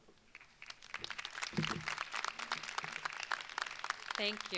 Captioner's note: crowd applauds